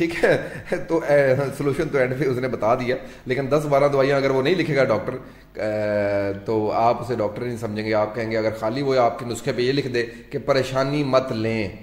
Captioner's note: laughter